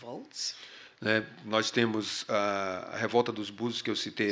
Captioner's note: speaking portuguese